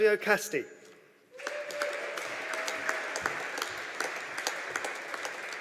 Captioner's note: audience applauding